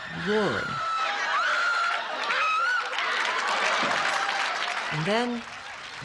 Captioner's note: loud Scream